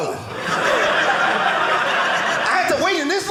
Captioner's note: audience laughing